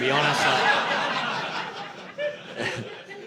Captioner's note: audience laughing